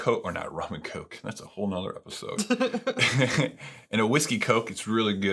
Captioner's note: laughing